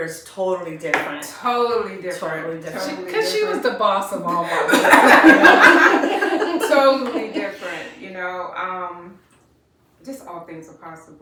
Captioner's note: laughter